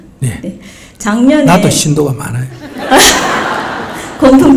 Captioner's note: audience Laughter